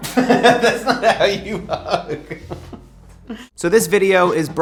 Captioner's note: laughs